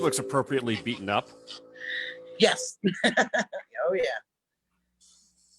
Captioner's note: laughs